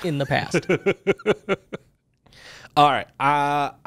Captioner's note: laughs